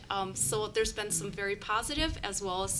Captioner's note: none